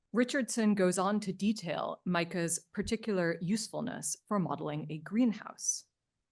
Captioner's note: none